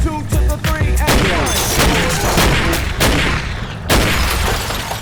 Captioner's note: gunshot